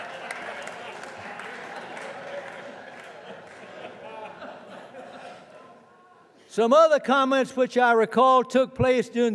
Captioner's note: laughter